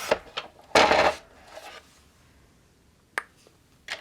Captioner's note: cutter scraping; objects knocking